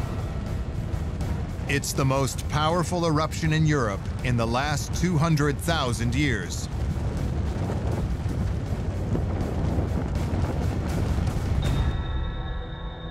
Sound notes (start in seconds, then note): 7.0 deep rumble